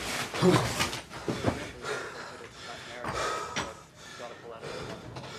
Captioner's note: both breathing hard